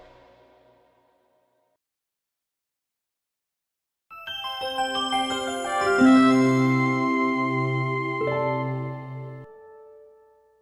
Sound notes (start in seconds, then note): 4.1 chiming